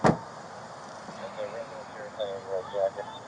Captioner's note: radio chatter